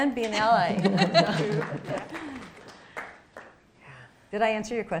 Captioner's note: clapping